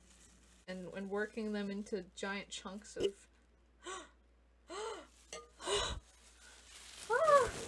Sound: gasp

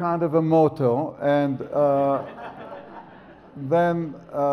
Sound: audience laughs

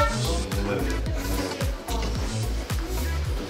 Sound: rustle rustle

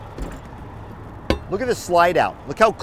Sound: door thumping

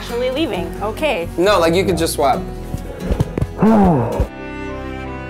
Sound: sighs; romantic string music

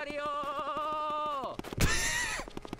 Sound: laughs

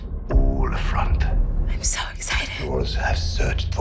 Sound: whispers

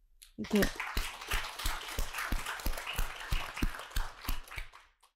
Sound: audience applauding

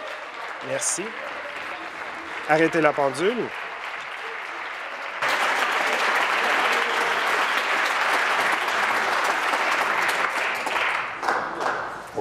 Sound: applause

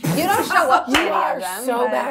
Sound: gamers laughing

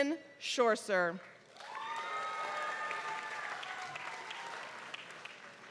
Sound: applause

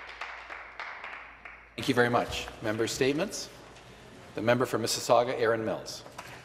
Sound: some Applause

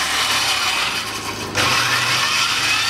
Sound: sawblade motor starting

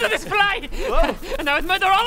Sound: arrogant buzz

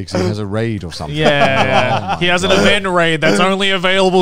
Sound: laughing

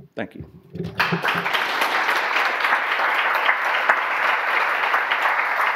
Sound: audience applause

